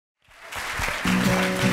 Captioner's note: applause